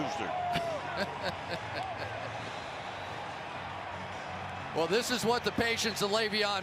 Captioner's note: laughs